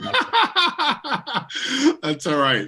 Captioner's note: laughing